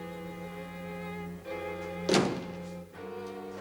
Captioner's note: door closes